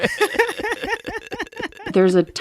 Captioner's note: laughter